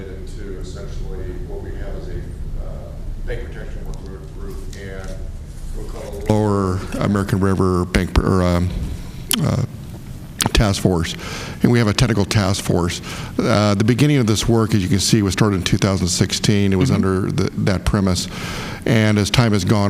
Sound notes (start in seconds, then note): 7.6 speaking within background